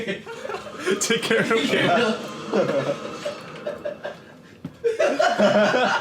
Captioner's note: all chattering and laughing